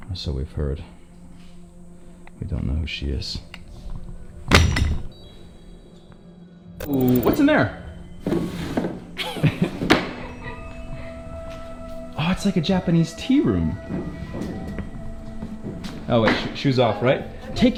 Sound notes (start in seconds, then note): 9.1 laughs